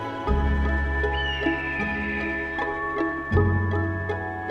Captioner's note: bird chirping